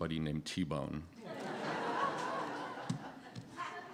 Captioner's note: laughter